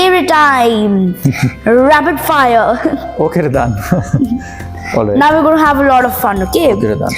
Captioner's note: laugh